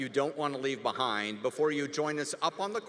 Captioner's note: none